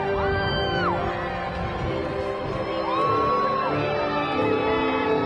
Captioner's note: graduation music continues; crowd cheering